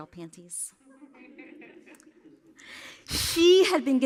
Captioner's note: laughter